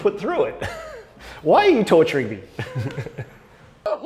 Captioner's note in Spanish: risas